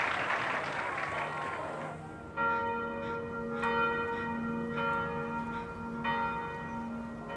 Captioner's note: bell tolling